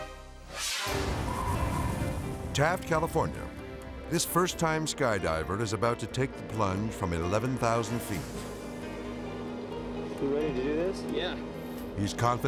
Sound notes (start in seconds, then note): 0.4 air whooshes; 0.5 wind whooshing